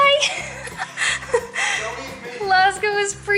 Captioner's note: laughter